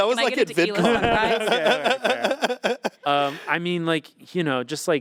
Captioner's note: Anthony laughing